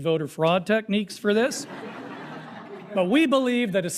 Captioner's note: crowd laughing